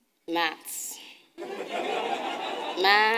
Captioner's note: audience laughing